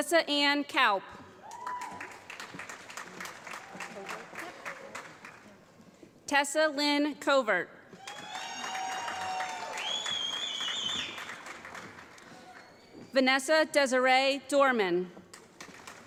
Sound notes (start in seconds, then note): 1.5 applause; 8.0 applause; 15.5 applause